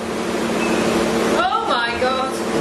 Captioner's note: device beeps